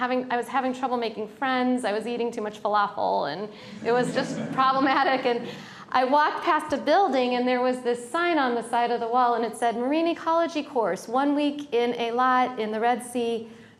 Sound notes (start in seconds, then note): 3.7 laughter